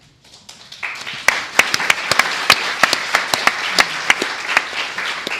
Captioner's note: applause